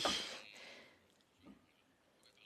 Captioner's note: speaking French